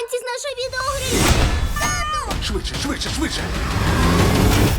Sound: girl exclaims

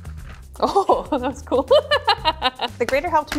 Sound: laughs

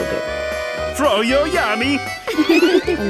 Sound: laughing

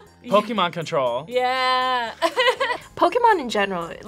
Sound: laughs

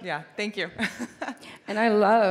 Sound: laughs

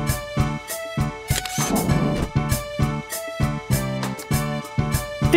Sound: SFX: Camera Shutter

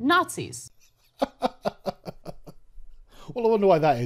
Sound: chuckles

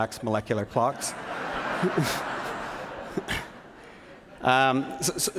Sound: laughter

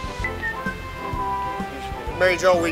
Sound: whistling

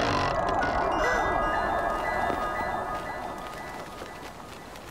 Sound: wind rustling, seagulls chirping

